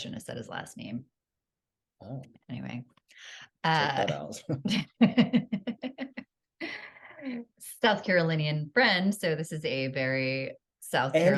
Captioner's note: laughter